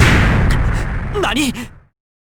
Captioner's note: gasp